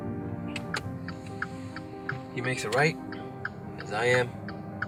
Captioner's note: car blinker clicking